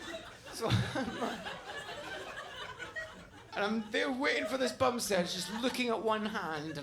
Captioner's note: laughing